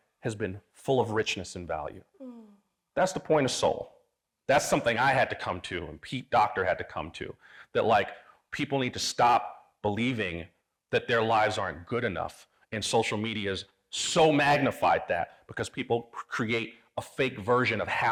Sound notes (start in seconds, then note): none